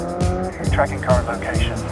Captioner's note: car engine revving